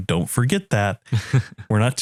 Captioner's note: laugh